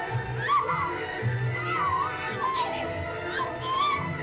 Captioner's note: ominous music; Pepita screaming